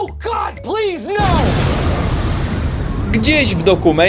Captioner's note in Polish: boom!